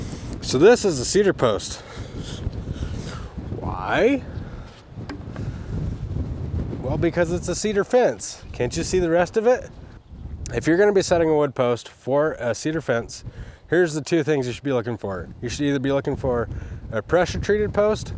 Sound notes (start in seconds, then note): 1.8 wind whooshing